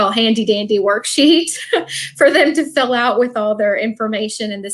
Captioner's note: laughs